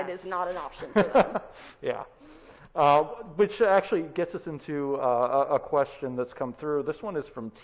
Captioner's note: laughs